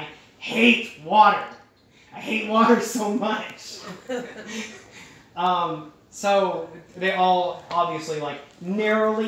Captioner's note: chuckling